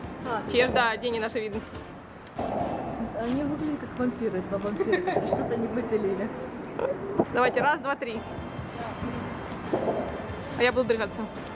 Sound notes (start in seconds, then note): 4.7 lols